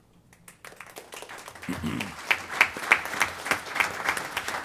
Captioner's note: applause